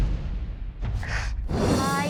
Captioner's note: sniffles